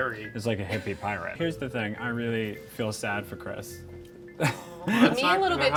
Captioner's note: laughing